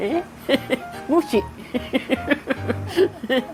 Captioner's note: laughs